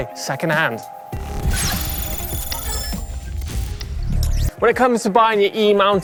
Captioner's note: electronic rumbling